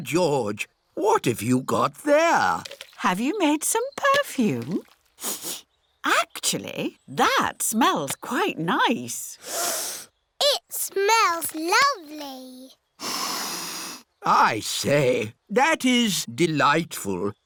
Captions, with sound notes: Ah, George. What have you got there? Have you made some perfume? (SNIFFS) Actually, that smells quite nice. (SNIFFS) It smells lovely. (SNIFFS) I say. That is delightful.